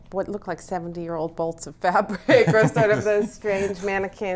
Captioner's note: both laughing